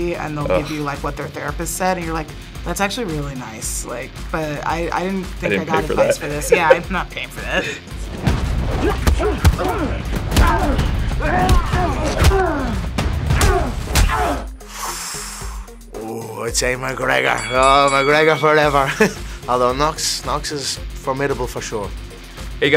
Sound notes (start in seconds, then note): 8.2 punches thudding; 8.9 fighters grunting; 14.6 inhales; 17.1 bell ringing; 19.1 laughs